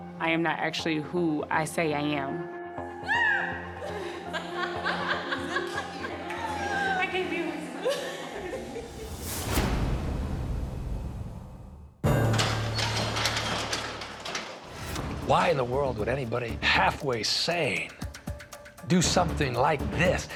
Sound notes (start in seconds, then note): 3.8 laughter; 8.2 dramatic music